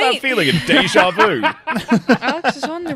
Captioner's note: laughs; laughter